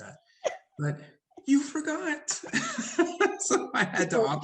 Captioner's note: laughs